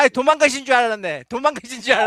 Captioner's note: non-english speech